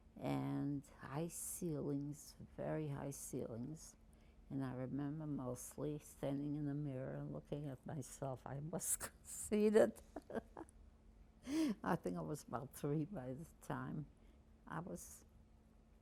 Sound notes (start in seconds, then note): 9.8 laughing